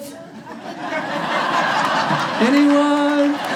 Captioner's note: audience laughs